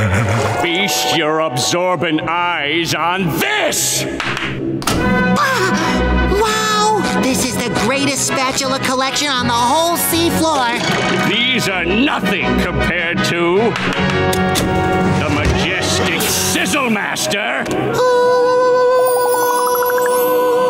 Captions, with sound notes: Feast your absorbent eyes on this! [gasping] Wow! This is the greatest spatula collection on the whole sea floor! These are nothing compared to... the majestic Sizzle Master! Ahh.